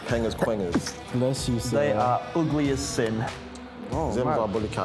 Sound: sneezes

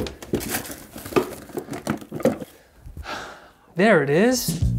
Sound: objects rattling

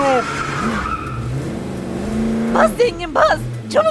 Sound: car sound

